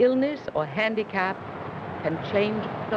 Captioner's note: street traffic